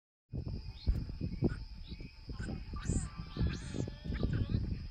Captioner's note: jungle sounds - otter noises